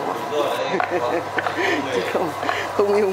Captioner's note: laugh